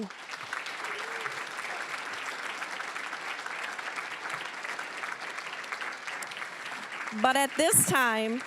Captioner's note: applause